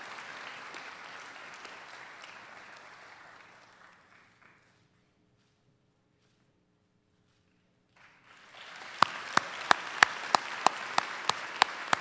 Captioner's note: applause; cheers